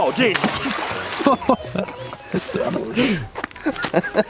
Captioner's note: laughter